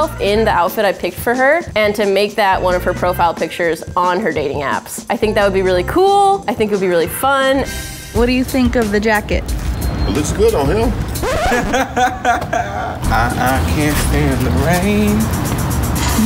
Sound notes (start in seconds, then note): 10.6 record scratching; 11.2 laughing